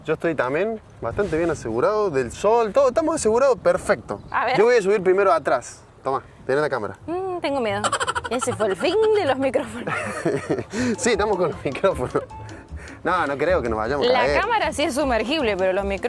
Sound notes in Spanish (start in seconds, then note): 9.6 risas